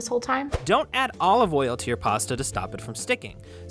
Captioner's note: voice-over